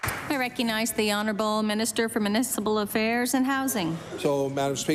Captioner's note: applause